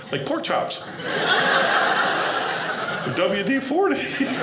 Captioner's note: audience laughing